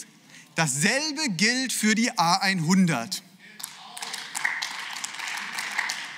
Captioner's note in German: Beifall